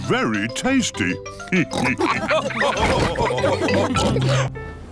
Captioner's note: all laugh